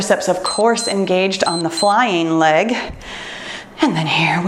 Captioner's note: timer beeps